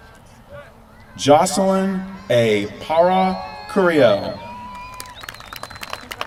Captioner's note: applause